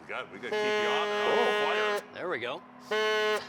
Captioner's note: horn